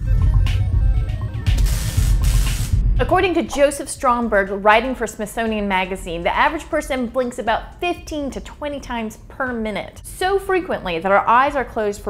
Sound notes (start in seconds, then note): 1.4 electricity buzzes